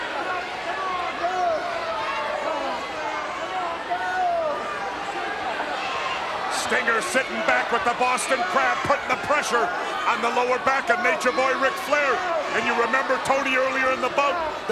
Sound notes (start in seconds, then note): 5.1 crowd cheering